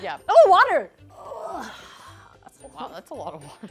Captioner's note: grunting